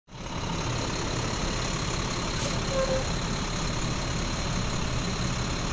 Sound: engine noises

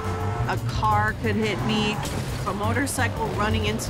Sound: car horn honking; car crashing

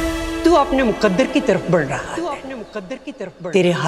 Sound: echoing

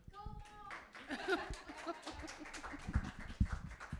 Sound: group claps

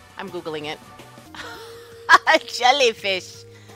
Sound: laughs

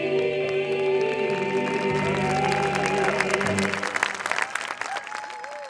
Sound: cheering and clapping with appreciation

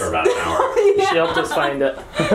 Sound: laughing

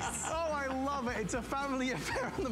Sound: laughter; laughter

